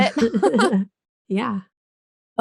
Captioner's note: both laugh